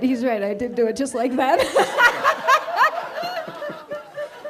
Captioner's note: laughs